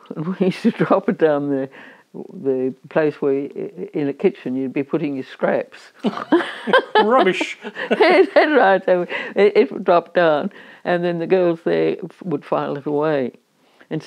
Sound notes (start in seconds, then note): 6.0 both laugh